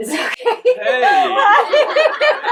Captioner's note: participants laughing